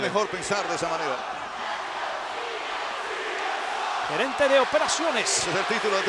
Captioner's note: applause